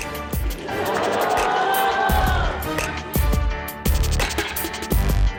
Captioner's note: audience laughing